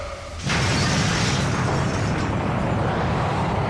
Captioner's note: glass shattering